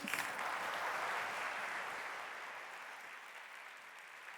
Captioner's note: audience applauding